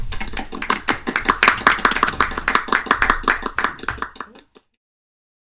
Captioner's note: applause